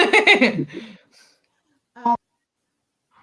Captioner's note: laughs